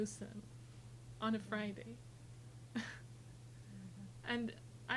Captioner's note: chuckles